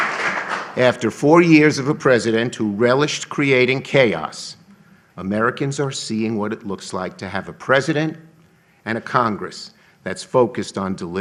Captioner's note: applause